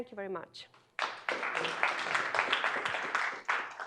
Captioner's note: applause